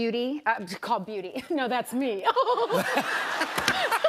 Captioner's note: laughs